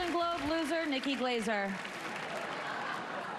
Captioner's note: applause